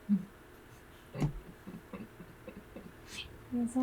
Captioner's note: giggling